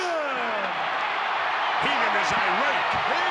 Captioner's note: crowd cheers